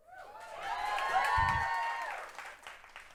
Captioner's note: applause